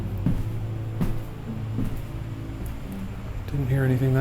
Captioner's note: footsteps clicking